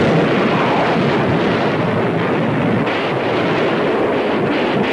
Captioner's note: explosion booming; weapons firing